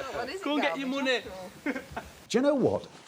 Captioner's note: laughing